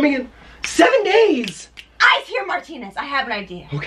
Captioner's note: snaps